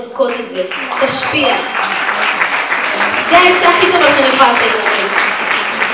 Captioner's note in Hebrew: מחיאות כפיים